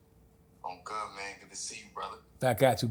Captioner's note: on phone